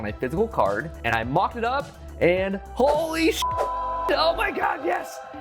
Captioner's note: beep; angels singing